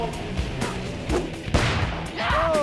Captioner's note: explosive booms